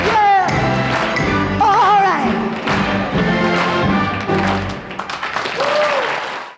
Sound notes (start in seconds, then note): 5.1 crowd applauds